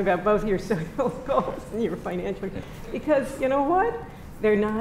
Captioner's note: laughs